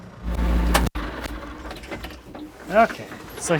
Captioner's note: engine powering off